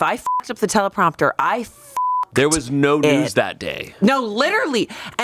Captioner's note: beep